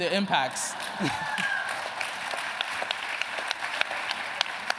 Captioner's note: applause